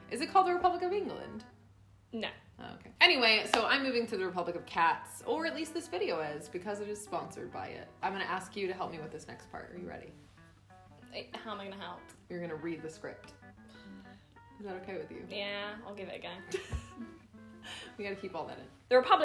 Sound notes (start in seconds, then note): 13.6 sighing; 16.9 laughing